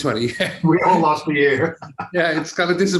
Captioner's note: chuckles lightly